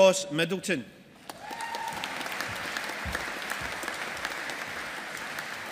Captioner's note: audience applauding